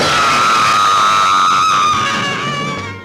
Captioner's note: screaming